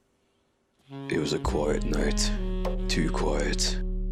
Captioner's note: Spec trying to sound cool